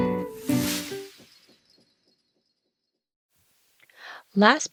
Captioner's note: sound effect